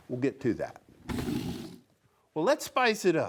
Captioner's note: wood scrapes